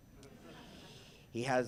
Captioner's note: audience laughs